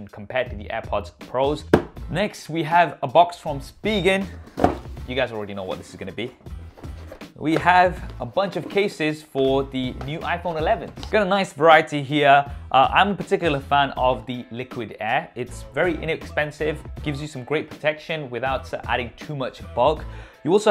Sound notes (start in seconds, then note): 4.5 box clatters